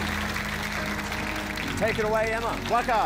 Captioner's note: applause